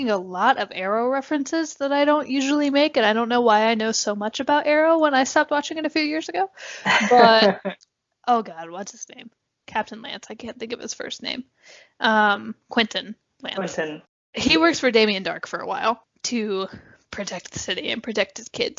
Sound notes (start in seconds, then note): 6.7 laugh